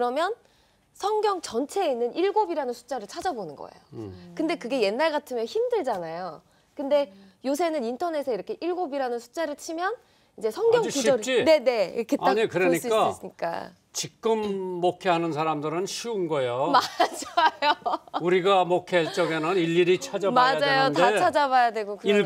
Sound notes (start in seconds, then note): 16.5 laughs